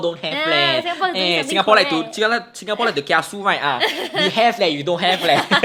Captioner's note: both laugh; laughs